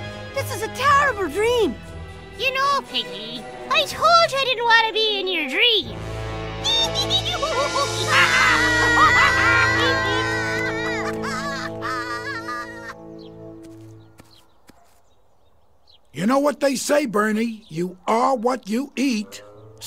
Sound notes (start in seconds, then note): 7.0 laughs maniacally; 8.0 screams